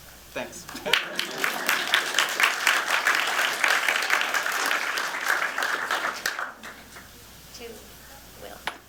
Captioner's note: applause